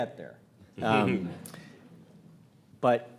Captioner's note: audience laughs